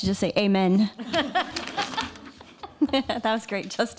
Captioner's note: people Laughing